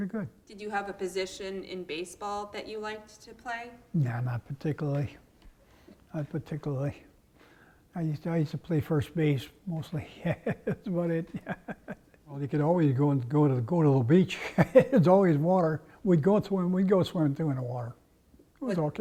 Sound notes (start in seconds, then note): 10.0 laugh; 14.3 laugh